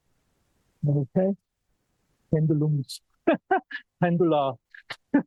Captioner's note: laughs